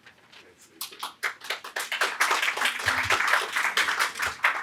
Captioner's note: audience clapping